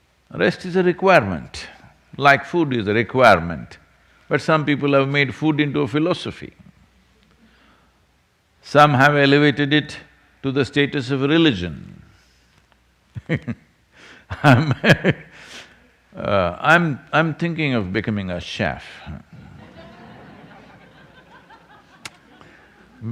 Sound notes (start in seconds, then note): 13.4 laughs; 19.4 laughter